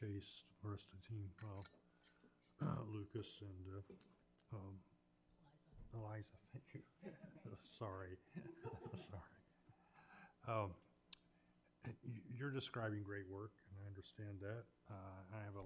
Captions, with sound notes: Chace, the team rest of the team, Lucas and - Eliza. - Eliza. Thank you. - That's okay. - Sorry. (chuckles) I'm sorry. You're describing great work and I understand that.